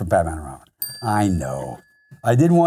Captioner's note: bell chiming